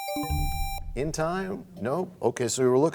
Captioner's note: bell chimes, time expires